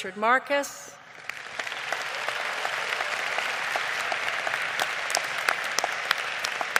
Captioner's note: audience applauding